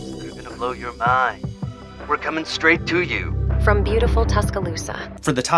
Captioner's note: fake female voice